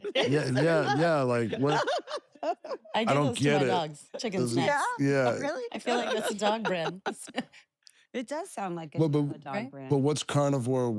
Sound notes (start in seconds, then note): 0.0 laugh